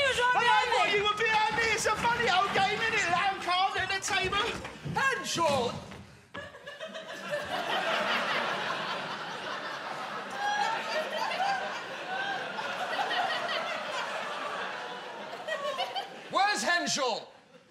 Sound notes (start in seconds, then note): 6.4 Alfie cowering, audience laughing